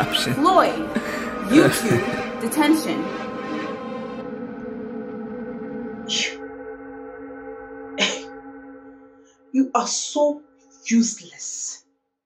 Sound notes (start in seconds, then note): 7.8 scoff